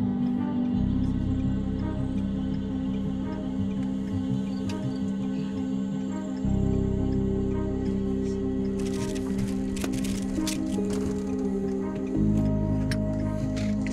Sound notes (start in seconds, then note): 0.9 blinker clicking